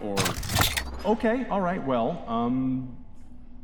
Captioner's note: futuristic rifle cocking